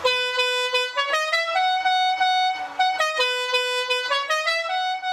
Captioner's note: horn honking